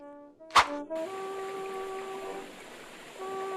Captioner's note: woosh; sound of a water flowing gently